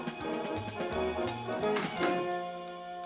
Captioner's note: door closes